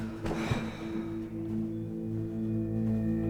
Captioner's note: Cara sighs